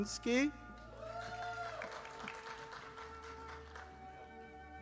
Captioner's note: audience applauding